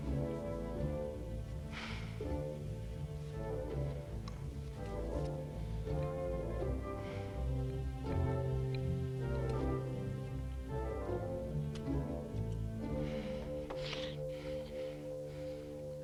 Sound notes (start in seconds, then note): 1.7 Hundra sighs; 13.3 both chuckle